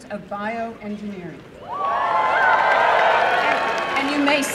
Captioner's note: applause and cheering